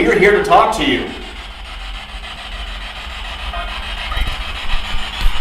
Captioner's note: static buzzing